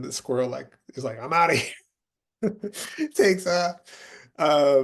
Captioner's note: laughing